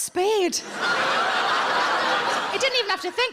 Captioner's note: audience laughs